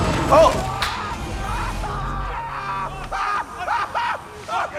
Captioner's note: screaming